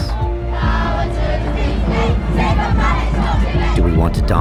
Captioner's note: group chanting